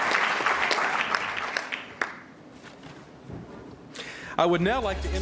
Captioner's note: applause